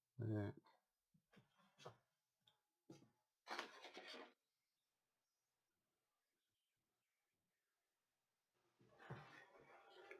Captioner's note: silence